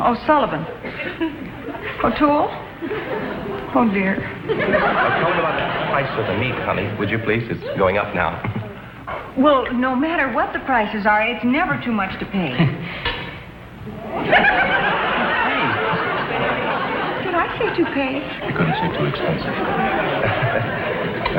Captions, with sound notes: O'Sullivan. O'Toole? Oh dear. (audience laughs) - Tell him about the price of the meat, honey, would you please? It's going up now. - Well, no matter what the prices are, it's never too much to pay. (audience laughs) - Toupee? - Did I say "toupee"? - You couldn't say "too expensive". (nervously chuckles)